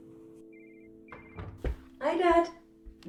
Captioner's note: door closes